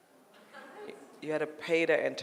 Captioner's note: audience murmurs